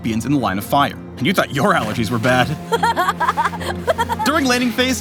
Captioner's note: Smolder laughing